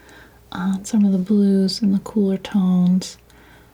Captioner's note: none